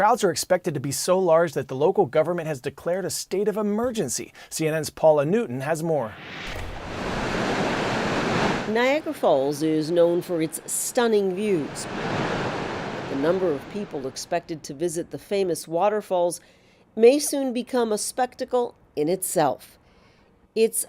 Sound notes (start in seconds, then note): 9.0 voice-over